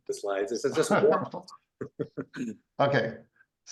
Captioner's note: laughs